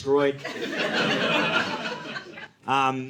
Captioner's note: audience laughing